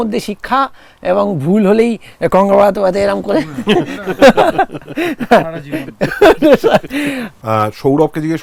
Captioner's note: laughter